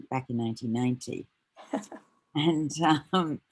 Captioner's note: chuckles